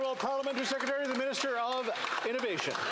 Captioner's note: some Applause